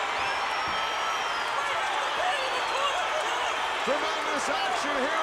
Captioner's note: audience cheering